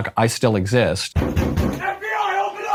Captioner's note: knocking on door 3 times